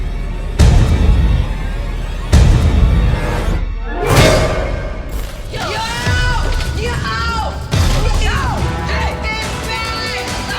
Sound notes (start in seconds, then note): 5.6 shouting & yelling